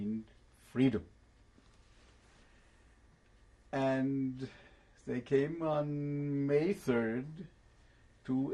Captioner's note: pauses for 3 seconds